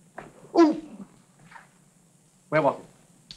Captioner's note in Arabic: تأوه الأولاد